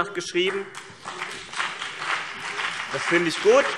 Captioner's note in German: Beifall CDU und BÜNDNIS 90/DIE GRÜNEN - Zurufe SPD